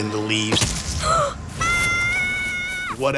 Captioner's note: gasps and screams